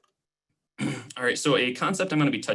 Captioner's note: clearing throat